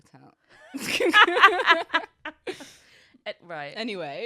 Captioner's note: laughs